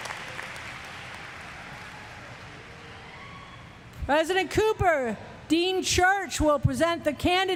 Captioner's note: applause; cheers